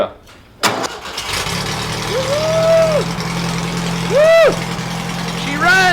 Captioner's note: engine starts